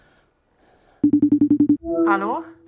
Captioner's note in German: Anruftöne